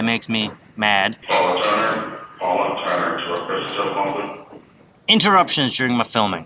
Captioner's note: airport Loud Speaker